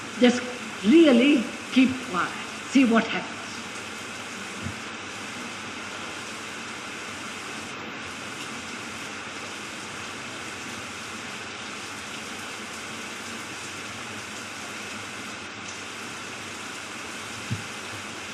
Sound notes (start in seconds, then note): 3.3 pause. Sound of rain and thunder for approximately five minutes